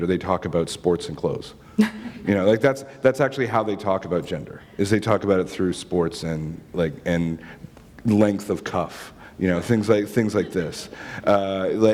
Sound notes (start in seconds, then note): 1.8 chuckle